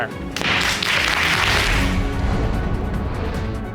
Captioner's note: bangs gavel